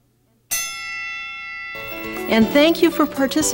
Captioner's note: bell rings